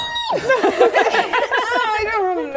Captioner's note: laughing